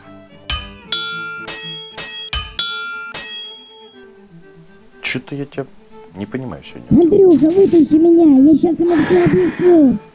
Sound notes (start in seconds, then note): 0.5 anvil sounds intensify